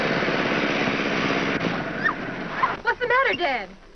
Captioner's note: car cranks and stops